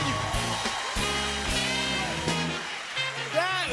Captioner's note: cheers and applause